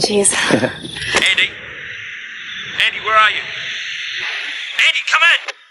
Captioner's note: two-Way Radio